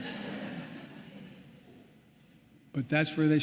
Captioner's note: laughter